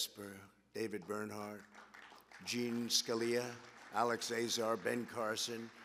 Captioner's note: applause